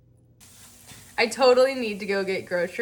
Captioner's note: pan sizzling